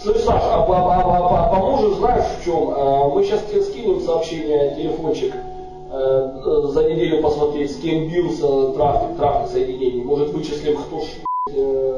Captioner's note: speaks on the phone